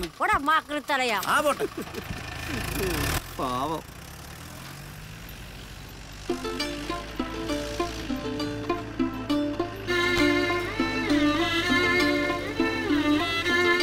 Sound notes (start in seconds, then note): 2.5 car Sound